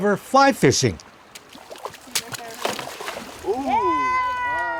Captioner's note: water sloshing